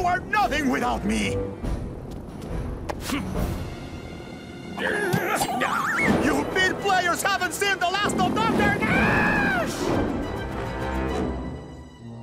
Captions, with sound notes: You are nothing without me. [grunting] You bit players haven't seen the last of Don Karnaaaaaaage.